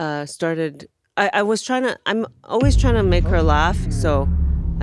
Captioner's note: none